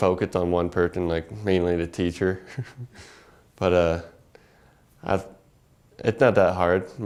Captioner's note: laugh